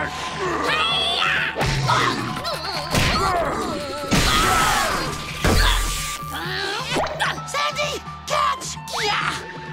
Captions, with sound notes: Hiya! [grunting] [screaming] [grunting] Sandy, catch! Yah!